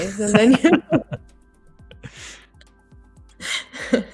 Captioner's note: laughter